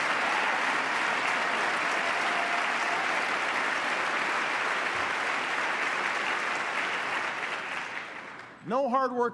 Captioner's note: applause